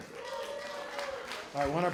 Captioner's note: applause